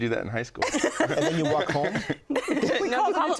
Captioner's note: laughing